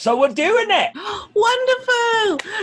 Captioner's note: gasps